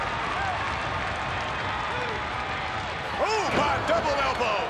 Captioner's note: audience cheering